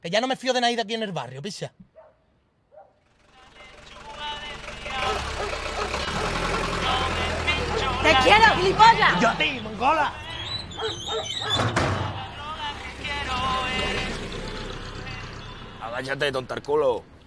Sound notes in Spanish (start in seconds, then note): 2.7 Ladridos; 10.7 Ladridos, música